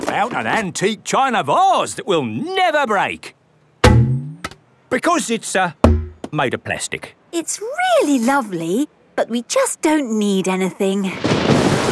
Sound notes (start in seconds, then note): 3.8 thunks